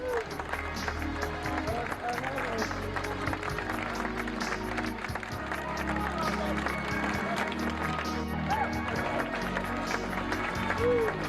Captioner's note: crowd Clapping